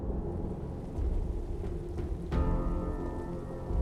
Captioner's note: rain pаttering